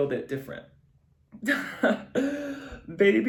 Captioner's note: giggles